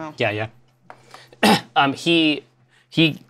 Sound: clears throat

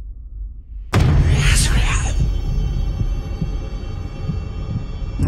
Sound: eerie whispering

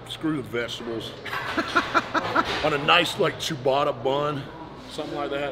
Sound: laugh

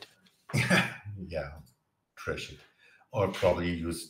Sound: laughs

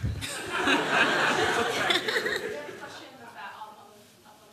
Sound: laughter

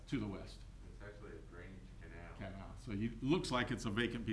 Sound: faintly speaking

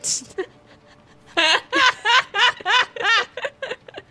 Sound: laughter

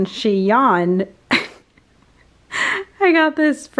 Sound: laughs

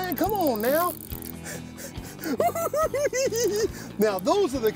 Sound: cackling

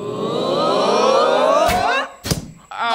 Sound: crowd "awwws"

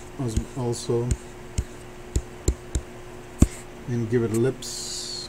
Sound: faint techno music; computer mouse tapping

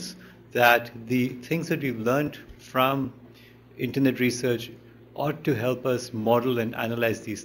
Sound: none

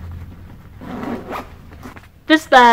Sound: zip

